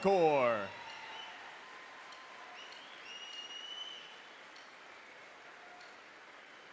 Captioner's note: audience cheering and applauding